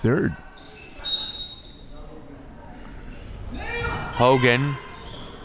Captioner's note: referee blows whistle